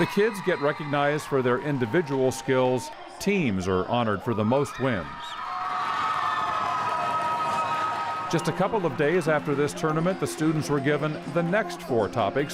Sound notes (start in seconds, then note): 5.5 more applause